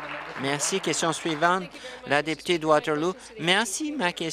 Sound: applause

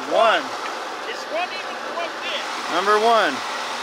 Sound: murmurs

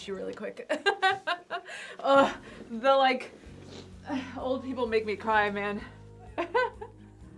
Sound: laughs

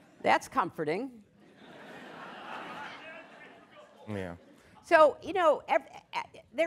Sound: laughter

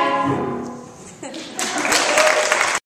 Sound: laughter and applause

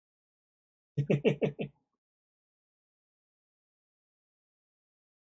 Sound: chuckles

